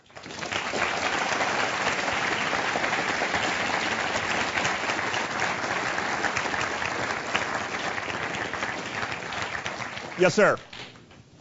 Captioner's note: applause